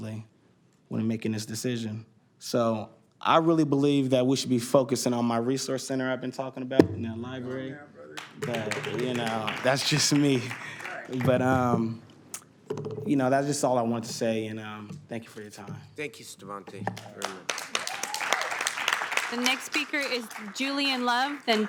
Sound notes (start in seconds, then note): 16.9 applause